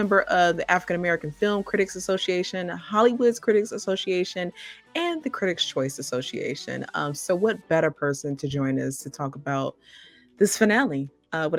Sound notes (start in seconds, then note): none